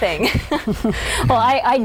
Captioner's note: laughs